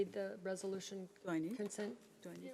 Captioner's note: overlapping chattering